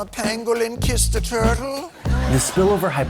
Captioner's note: audience laughing